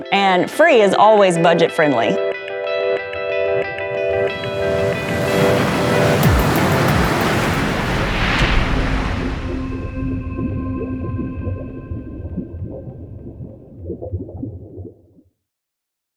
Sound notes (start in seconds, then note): 2.4 bright music; 4.4 wave rushes; 8.8 gentle music; 8.8 water burbling